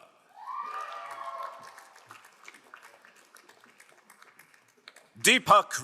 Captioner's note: crowd cheering and applauding